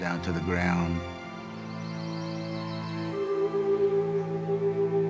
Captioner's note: birds chirping